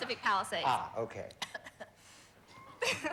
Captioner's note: coughs